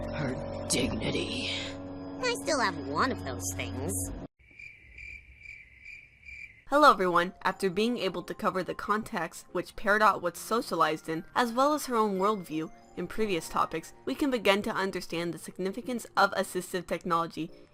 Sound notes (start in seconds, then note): 4.4 cricket noises